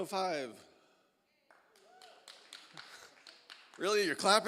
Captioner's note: applause